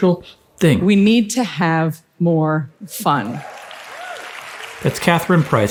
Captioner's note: audience applauding